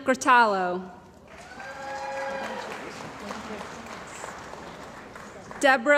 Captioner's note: cheering & Applause